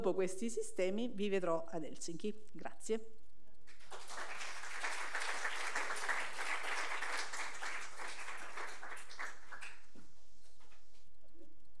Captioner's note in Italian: Applauso